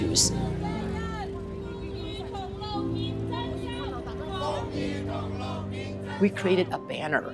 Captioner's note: crowd chanting